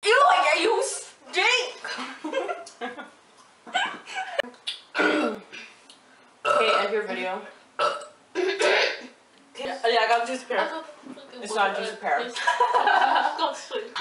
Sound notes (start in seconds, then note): 4.9 burp; 7.8 burp; 7.8 buurp